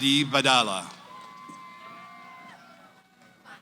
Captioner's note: cheering